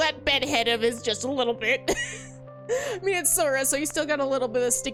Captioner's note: laughs